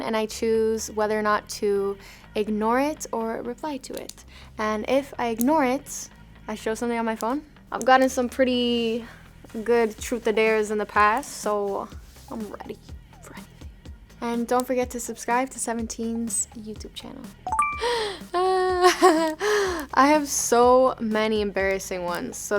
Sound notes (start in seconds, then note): 17.4 bell chiming; 17.8 laughing